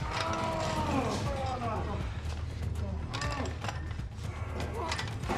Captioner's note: heavy breathing